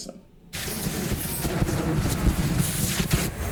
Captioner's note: fire roars